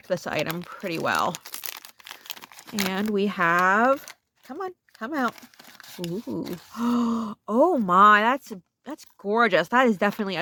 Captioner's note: gasp